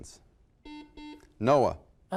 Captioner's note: buzzer